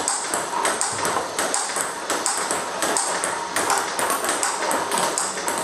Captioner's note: ball ping pong hitting continues